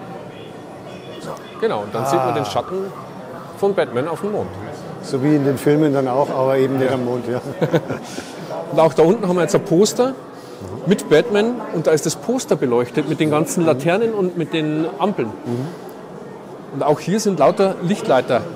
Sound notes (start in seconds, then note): 8.1 laugh